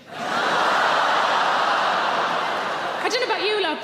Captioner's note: audience groans